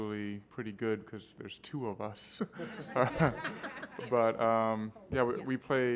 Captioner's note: laughter